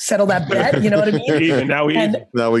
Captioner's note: laughing